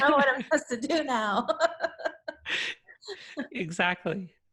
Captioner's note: laughs